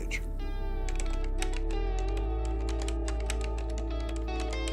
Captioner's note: keypad beeping